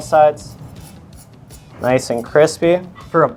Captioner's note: knife scraping